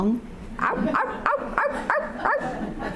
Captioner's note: dog barking